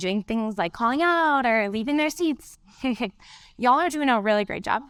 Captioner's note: chuckles